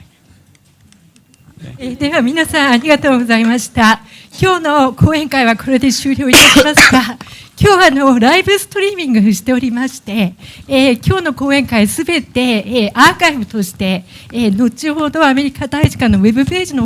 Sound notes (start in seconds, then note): 5.8 speaking japanese